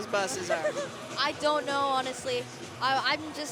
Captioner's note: laughter